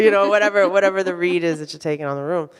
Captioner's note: audience laughs